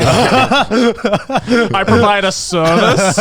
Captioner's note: all laughing